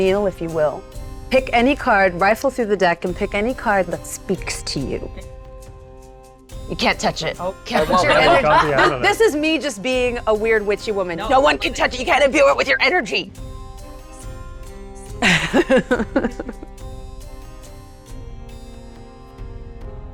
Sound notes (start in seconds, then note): 7.7 laughs; 15.2 laughs